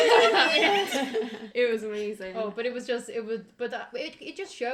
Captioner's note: said in a high pitched voice